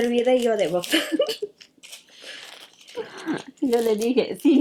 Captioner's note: both laugh